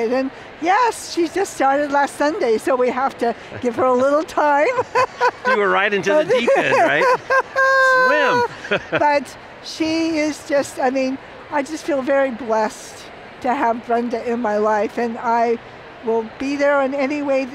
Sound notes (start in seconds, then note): 3.5 laughs